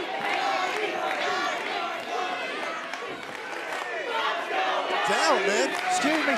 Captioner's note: fans chanting